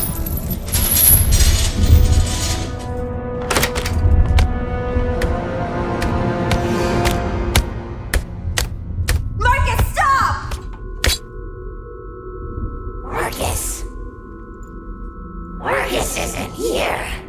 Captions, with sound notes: (chain rattles) (dramatic music) (rod thumps) - Marcus, stop! (rod thumps) - Marcus. Marcus isn't here.